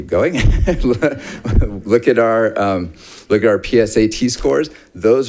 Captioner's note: laughs